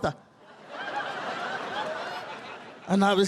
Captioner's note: audience laughing